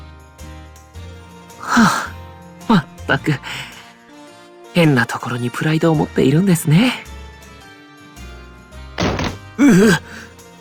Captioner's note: sigh